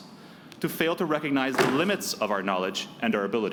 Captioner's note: slamming noise